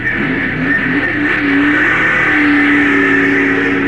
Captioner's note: engine roaring